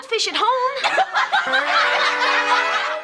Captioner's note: class laughing; electric guitar music